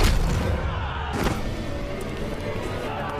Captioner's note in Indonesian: berteriak